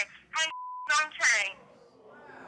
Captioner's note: beep